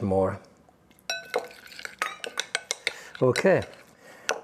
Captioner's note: spoon clinking